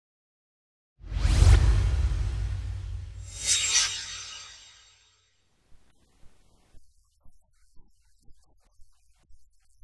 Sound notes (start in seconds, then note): 1.0 swoosh